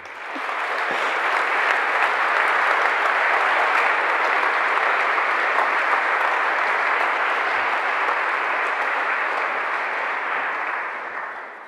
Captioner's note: general applause